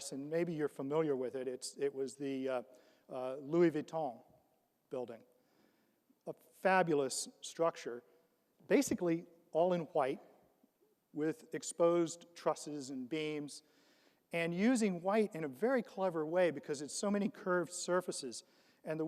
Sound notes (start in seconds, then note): none